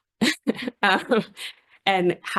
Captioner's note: laughs